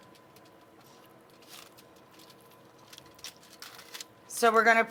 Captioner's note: foil crinkles